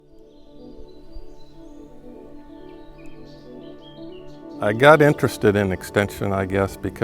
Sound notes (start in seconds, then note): 0.0 birds chirping; 0.1 upbeat music